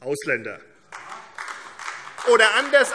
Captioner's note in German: Beifall AfD